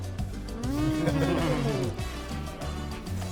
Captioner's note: laughter